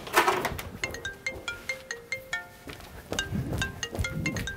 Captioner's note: phone ringing